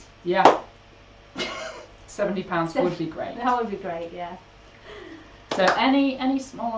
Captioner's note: laughs